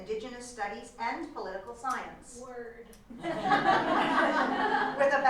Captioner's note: laughter